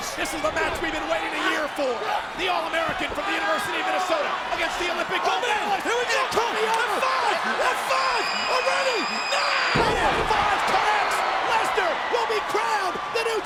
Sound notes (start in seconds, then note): 9.7 bodies thud